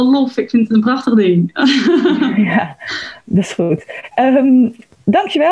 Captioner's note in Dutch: Lacht